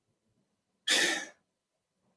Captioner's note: sighs